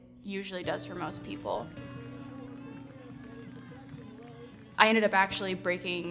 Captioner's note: crowd cheering